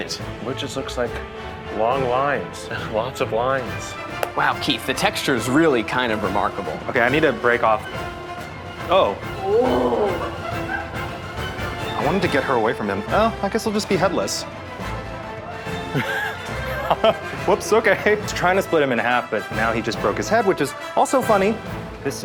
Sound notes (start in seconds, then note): 10.2 crew laughing; 10.2 dramatic music; 15.8 laughing